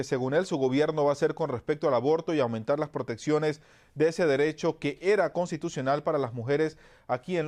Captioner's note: HABLA EN INGLéS